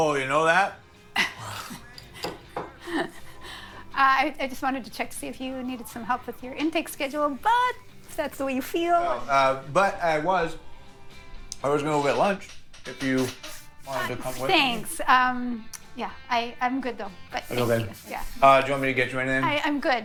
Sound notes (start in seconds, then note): 1.9 knocking; 2.8 awkward laughing